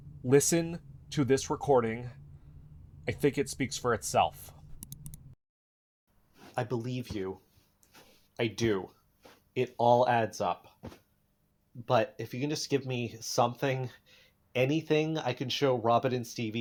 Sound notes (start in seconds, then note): 4.7 double click